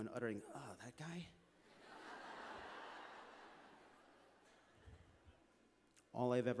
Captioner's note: laughter